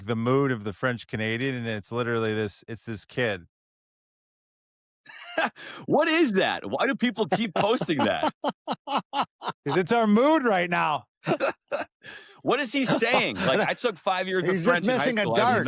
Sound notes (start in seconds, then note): 5.1 laughs; 11.2 laughter